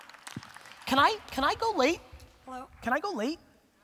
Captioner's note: audience applause